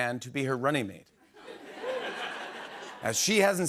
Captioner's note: laughter